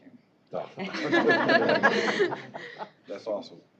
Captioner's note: laughter